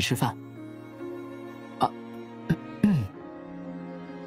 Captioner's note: cough